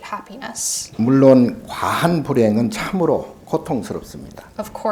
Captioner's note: speaking Korean